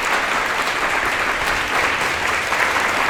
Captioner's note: applause